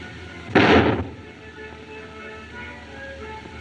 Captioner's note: gunshot